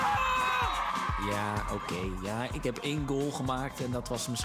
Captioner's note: cheering